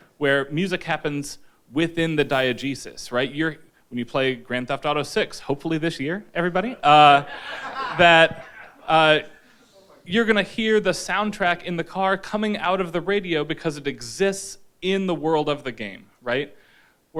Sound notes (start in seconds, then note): 7.0 audience laughing